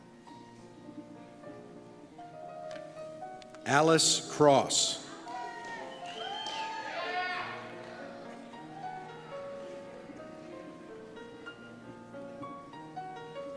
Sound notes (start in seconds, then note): 5.1 cheers